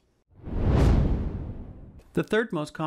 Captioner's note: whooshing